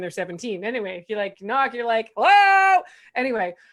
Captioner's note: shouts